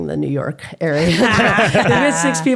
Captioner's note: laughing